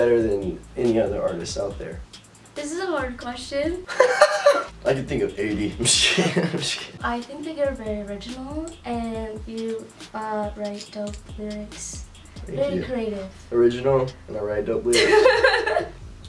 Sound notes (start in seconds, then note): 3.9 laughs